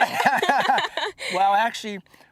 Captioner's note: laughter